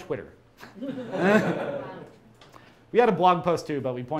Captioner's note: crowd laughs